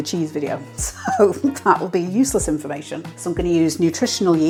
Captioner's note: laugh